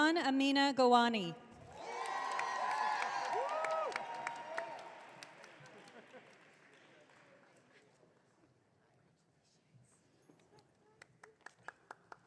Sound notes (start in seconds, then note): 1.7 audience cheering